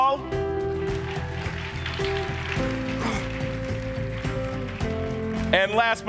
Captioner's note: audience cheering and applauding